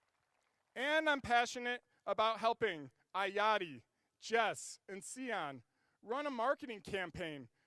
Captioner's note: applause